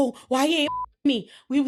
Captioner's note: beep